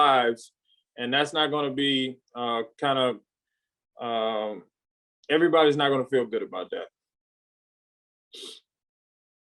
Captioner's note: sniffle